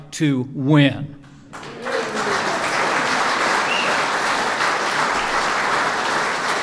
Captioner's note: applause